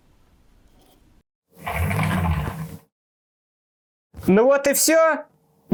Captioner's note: wheels spinning